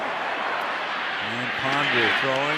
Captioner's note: cheering